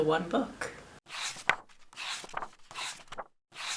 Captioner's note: pages turning